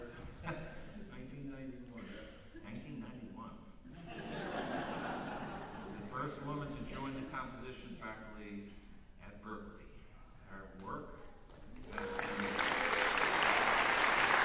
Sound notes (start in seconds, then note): 0.1 chuckles; 3.9 laughter; 11.7 cheering, applause